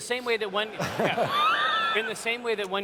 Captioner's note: laughter